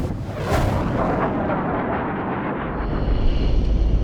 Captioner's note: jet whooshing; tense music